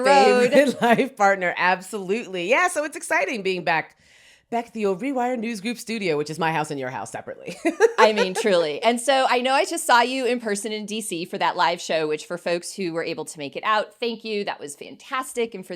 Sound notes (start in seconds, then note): 0.1 laughs; 7.7 laughs